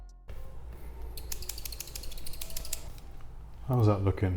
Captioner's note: scissors snipping